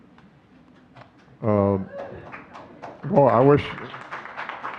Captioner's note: clapping; audience clapping